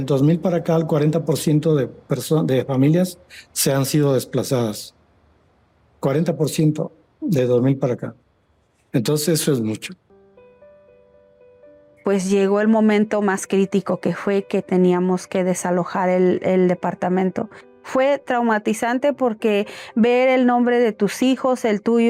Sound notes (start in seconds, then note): 0.2 speaking Spanish; 10.4 soft music; 12.2 speaking Spanish